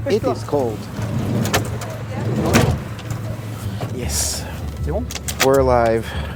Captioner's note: sounds of van door slamming shut